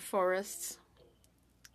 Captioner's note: speaking French